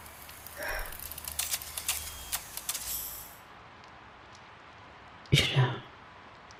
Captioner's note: whirring as her arm returns to human-looking